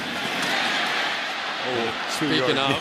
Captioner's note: cheering